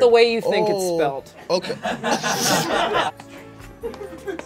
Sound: laughter

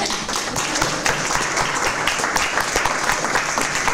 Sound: applause

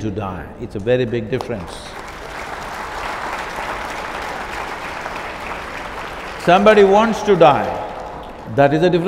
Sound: applause

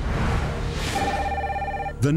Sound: phone ringing

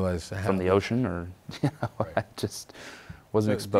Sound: laughs

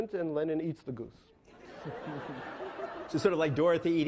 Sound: laughing

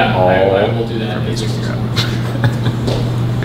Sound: laughing

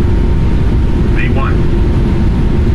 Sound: aircraft aural alert

